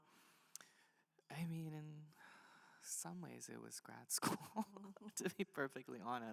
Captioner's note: laughs